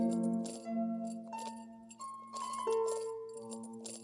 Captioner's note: metallic jingling